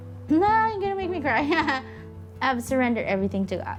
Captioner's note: laughs